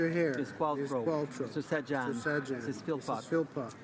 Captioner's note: speaking french